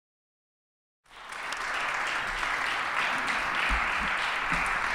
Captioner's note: applause